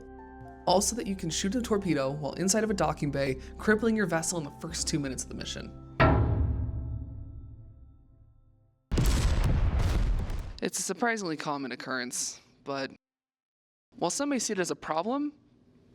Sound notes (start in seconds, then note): 8.9 explosion go brrrrrrrrrr